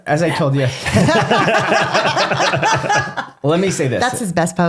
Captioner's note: laughing